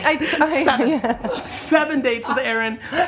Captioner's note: laughs